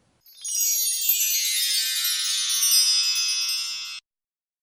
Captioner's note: sparkly sound effects